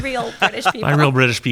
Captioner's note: laughing